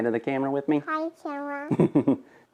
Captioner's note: laughing